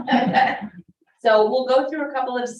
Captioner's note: all chuckling